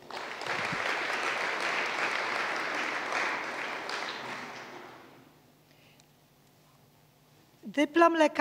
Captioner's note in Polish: oklaski